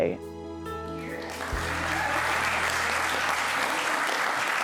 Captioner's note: crowd applauding